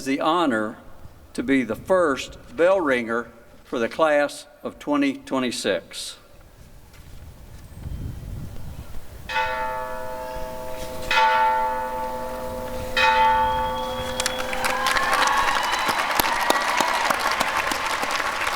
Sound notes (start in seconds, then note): 9.2 bell rings three times; 13.9 applause and cheering